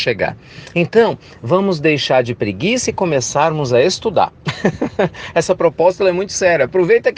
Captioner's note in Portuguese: risos